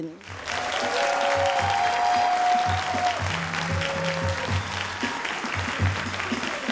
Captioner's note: all applauding and cheering